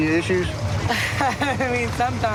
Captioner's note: laughs